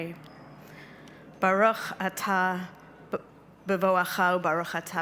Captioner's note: speaking Hebrew